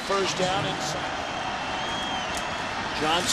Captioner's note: crowd cheering